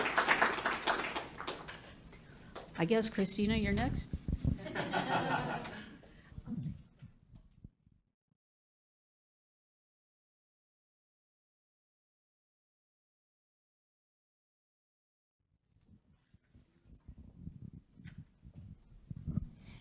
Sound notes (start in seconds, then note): 0.0 public clapping; 8.4 public laughing